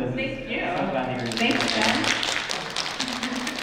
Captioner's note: applause